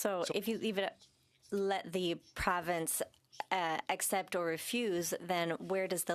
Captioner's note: speaking French